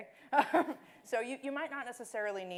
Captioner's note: laughing